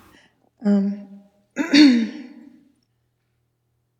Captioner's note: clears throat